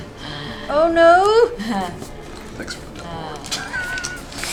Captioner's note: laughs